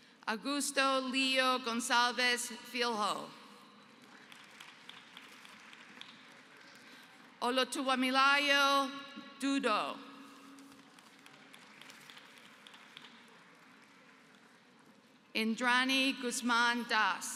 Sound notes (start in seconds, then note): 3.8 applause; 10.5 applause